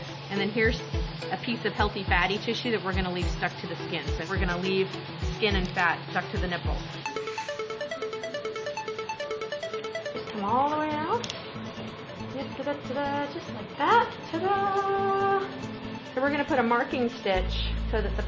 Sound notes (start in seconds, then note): 7.2 upbeat music; 12.4 humming